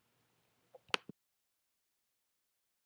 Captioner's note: clicking noise